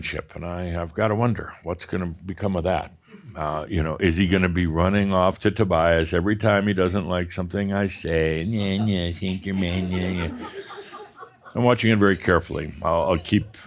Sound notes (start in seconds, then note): 8.3 more chuckles